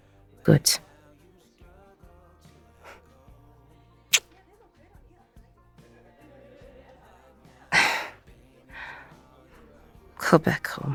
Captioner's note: kisses the listener on the cheek